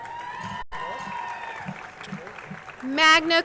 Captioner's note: crowd cheering and applauding